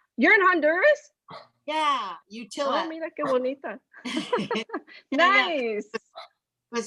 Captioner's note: speaks spanish